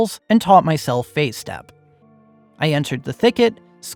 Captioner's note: none